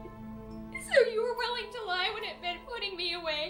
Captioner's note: crying